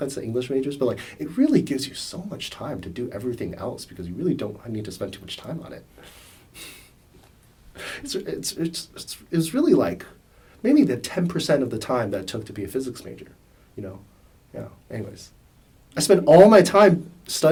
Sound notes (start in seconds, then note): 6.5 laughs